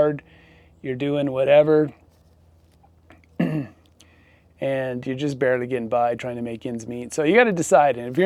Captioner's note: clears throat